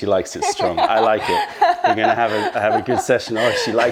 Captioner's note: laughter